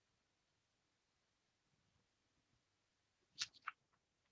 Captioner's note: silence